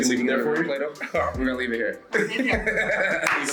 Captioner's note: laugh